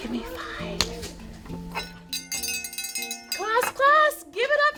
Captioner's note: gentle music; bell dinging